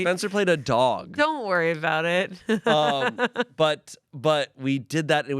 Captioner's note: laughs